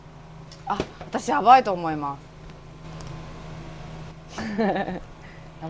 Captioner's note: laugh